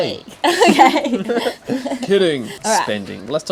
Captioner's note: giggling